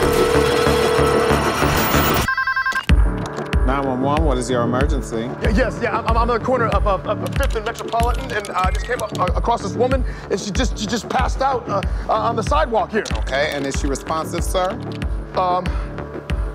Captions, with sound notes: (phone ringing) - 9-1-1, what is your emergency? - Yes. I'm on the corner of 5th and Metropolitan and I just came across this woman and she just passed out on the sidewalk here. - Okay. And is she responsive, sir?